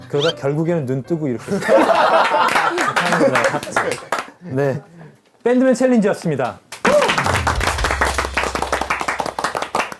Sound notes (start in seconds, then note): 6.7 clap clap